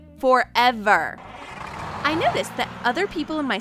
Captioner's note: bus engine whirring